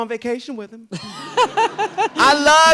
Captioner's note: laughs